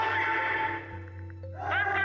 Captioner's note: crowd yelling